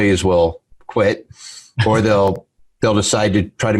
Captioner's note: laughs